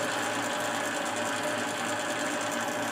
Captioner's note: loud machine rattling